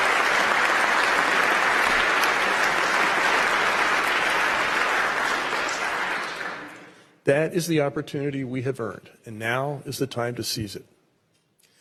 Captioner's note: applause